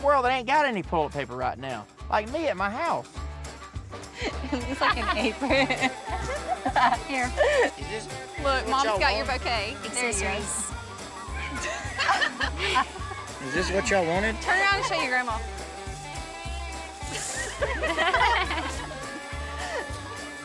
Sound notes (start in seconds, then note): 4.1 everyone chatters, chuckles; 11.4 everyone chuckles; 17.1 everyone laughs